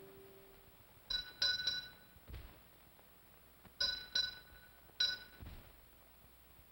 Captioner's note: bell rings slowly